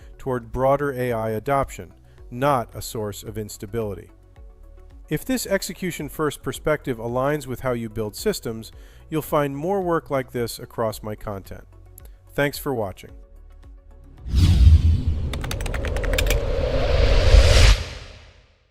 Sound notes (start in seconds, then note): 13.6 gentle music; 14.1 logo whooshing; 15.2 mouse clicking